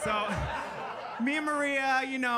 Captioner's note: audience laughing